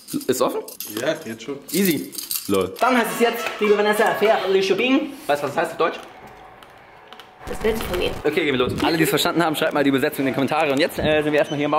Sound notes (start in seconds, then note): 4.4 spricht Fremdsprache